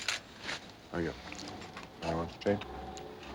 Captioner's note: indistinct chatter